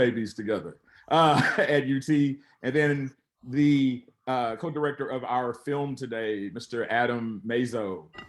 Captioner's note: chuckles